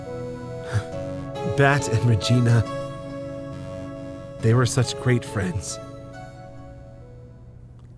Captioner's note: sigh